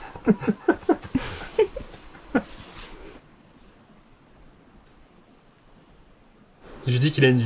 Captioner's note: laughs